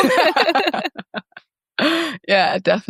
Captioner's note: group laughing